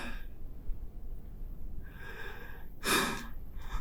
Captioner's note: Pete sighs